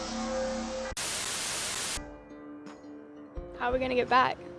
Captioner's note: static white noise; soft rock music